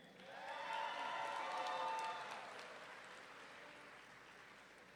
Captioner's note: audience cheering